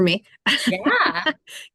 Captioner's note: laughs